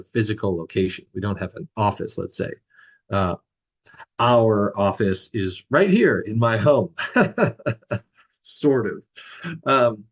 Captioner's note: laughs